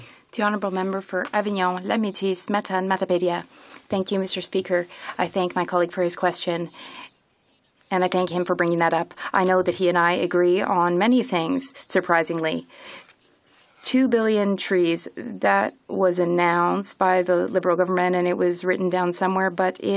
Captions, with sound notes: AS A SUBSIDY? THANK YOU. [ Speaking French ] >> THE HONOURABLE MEMBER FOR AVIGNON. >> THANK YOU, MR. SPEAKER. I THANK HIM FOR BRINGING THAT UP. I KNOW HE AND I AGREE ON MANY THINGS, SURPRISINGLY. 2 BILLION TREES.